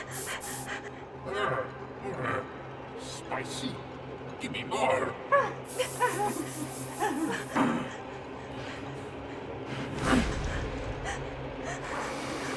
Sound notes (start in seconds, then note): 0.0 spray hissing; 1.4 leprechaun groaning; 5.6 spray hissing; 7.6 leprechaun grunting